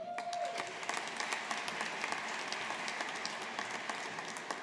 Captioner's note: audience applauding